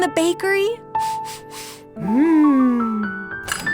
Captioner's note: sniffing deeply